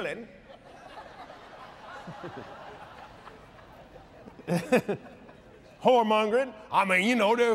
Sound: laughs

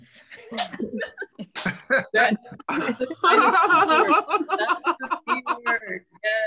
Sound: laughter

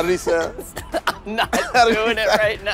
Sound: laughter

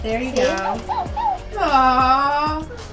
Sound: Rollie barks

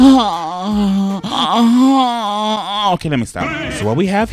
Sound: moaning

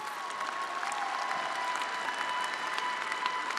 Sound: attendees applauding

